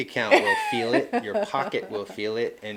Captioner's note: laughing